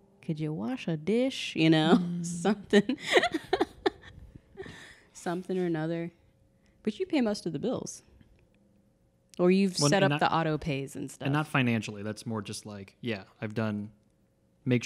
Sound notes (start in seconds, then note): 2.5 laughing